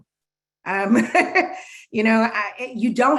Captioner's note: laughing